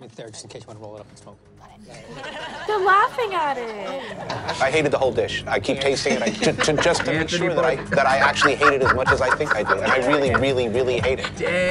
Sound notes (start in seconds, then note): 1.8 group laughs; 7.3 laughs